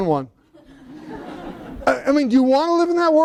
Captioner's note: laughter